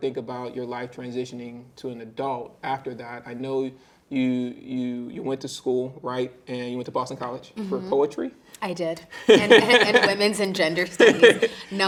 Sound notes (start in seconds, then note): 9.2 interviewer chuckling